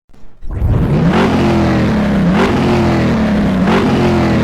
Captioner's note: car engine revving